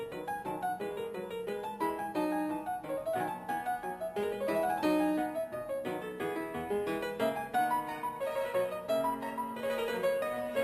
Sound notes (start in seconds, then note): none